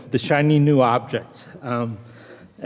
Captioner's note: none